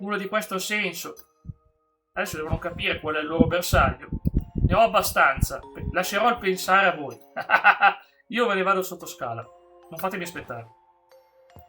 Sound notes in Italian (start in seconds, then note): 7.3 risate